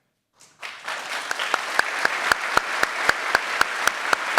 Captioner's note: audience applauds